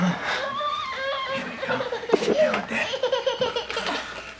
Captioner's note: andrea crying